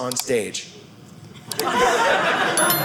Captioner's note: audience laughing